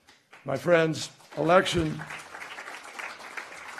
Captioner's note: applause